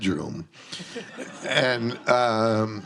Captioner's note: audience laughs